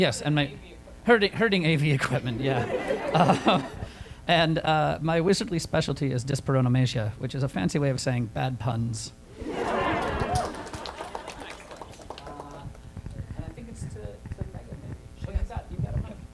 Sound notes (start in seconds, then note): 9.4 laughter